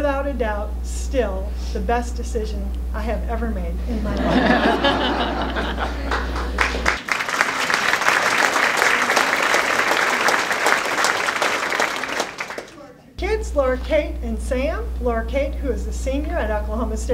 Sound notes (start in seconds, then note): 3.8 laughter; 5.5 applause